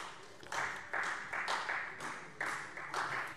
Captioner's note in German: Beifall Freie Demokraten